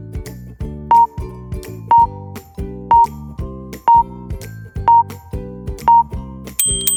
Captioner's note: timer beeping; upbeat music continues; bell dings